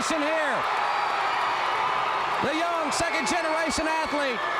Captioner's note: crowd cheering